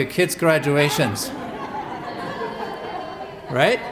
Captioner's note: laughter